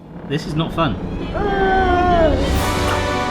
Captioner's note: disgusted noises; mystical music